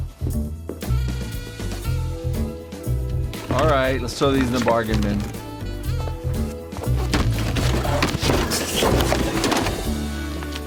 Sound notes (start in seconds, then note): 8.0 books fall